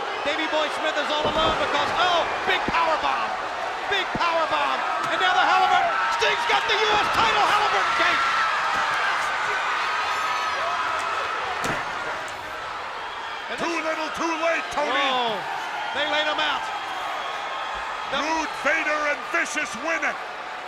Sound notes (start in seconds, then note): 8.2 crowd yelling